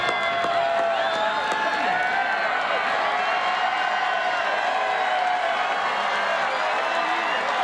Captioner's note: cheers